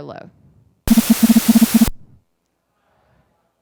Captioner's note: beeping